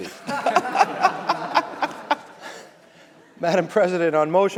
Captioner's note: laughter